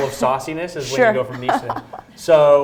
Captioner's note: laughs